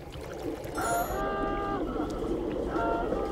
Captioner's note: klaxon blares